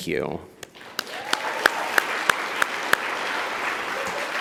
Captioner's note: audience applauds